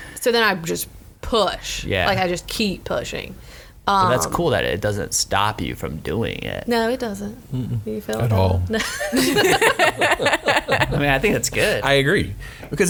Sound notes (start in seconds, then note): 8.8 laughs